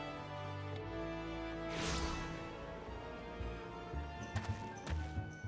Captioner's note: whoosh